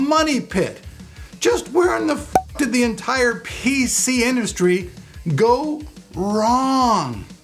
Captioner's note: pop